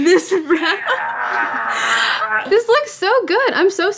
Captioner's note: shouting